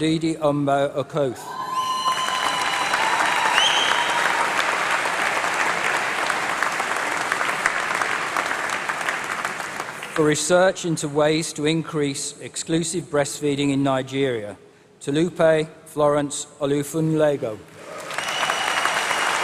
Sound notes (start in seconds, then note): 2.7 applause; 17.7 applause